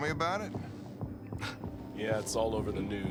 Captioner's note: laugh